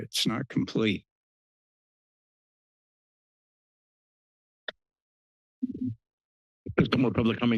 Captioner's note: silence